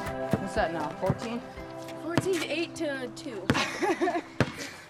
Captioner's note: laughs